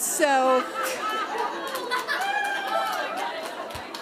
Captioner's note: laughter